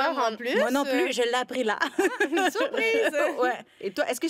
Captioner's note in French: rires